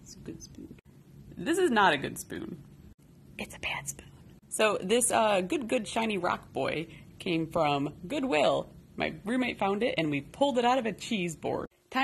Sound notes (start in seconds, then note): 0.1 whispers; 3.3 whispers